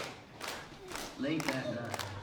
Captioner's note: clapping